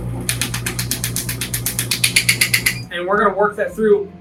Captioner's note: machine rumbling; machine ticking